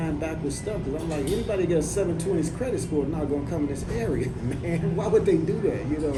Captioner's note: laughs